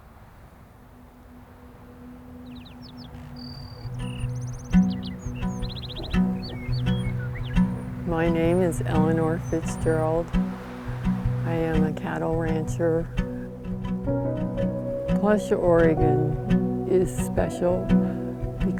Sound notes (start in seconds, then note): 2.7 birds chirping; 2.7 soft music